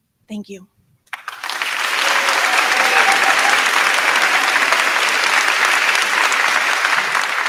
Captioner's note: crowd clapping; crowd cheering